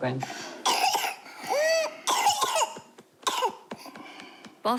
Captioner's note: coughs, inhales deeply, coughs